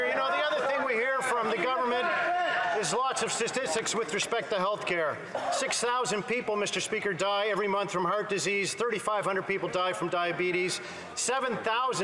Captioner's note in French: voix de l'interprète